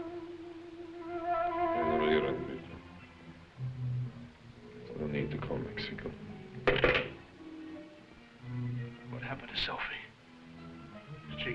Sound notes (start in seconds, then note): 1.9 speaking foreign language